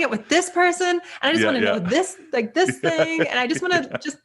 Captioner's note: laughing